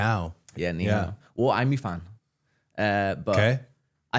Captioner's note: speaks foreign language